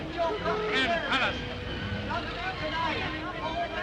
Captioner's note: muffled chatter